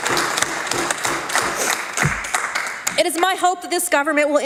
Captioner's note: applause